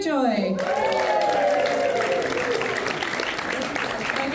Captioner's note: audience applauds